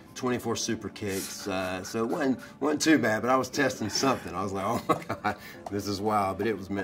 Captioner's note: laugh